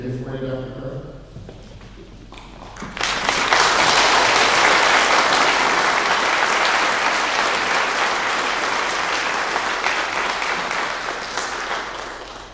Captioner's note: clapping